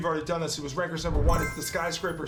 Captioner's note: blip